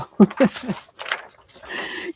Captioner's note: chuckles